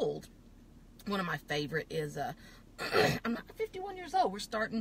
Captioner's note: coughs